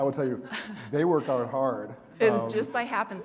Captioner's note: laughing